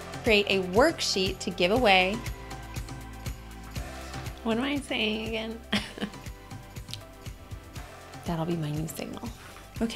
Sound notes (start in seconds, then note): 5.7 laughs